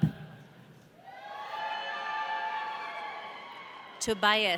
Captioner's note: audience cheering